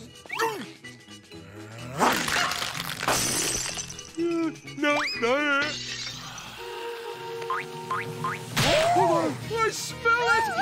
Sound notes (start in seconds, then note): 2.0 shattering; 5.7 sighing